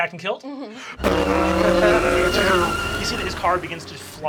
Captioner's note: tires screeching